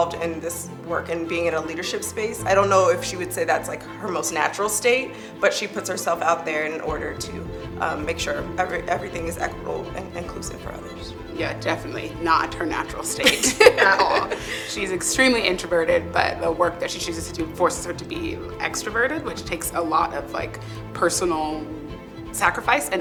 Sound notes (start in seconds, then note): 13.2 laughs